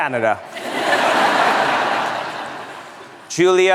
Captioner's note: laughter